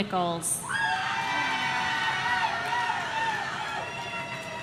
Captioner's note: audience cheering